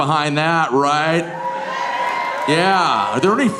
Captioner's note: audience cheering